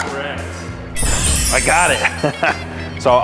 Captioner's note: bells ringing; laughs